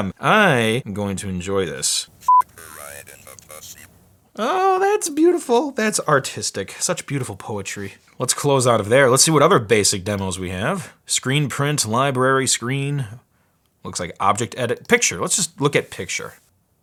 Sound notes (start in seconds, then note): 2.6 robotic Voice